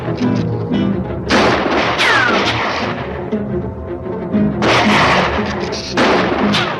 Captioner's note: bullets ricochet; gun fires; bullets ricochet; guns fire